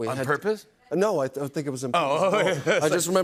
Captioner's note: chuckles